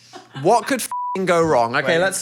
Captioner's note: beep